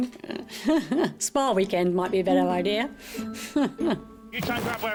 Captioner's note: chuckles; chuckles